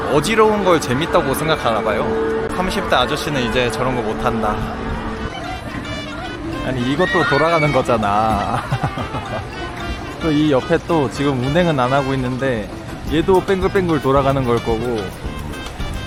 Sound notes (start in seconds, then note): 8.6 can't help but laugh